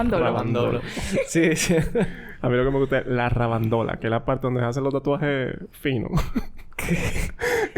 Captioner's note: laughs